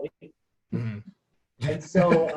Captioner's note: laughing